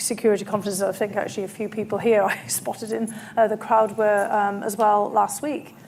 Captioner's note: laughs